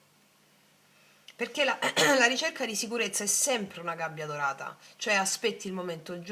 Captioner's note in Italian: schiarire la voce